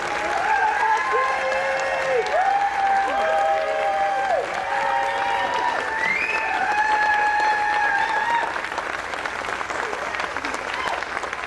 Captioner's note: applause